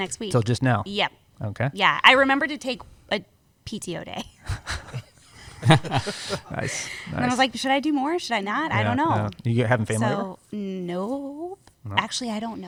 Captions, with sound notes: -Till just now? -Yes. -I remember to take a PTO day. [laughter] -Nice. I was like, "Should I do more, or should I not? -I don't know." -Are you having family? No. Actually, I don't know.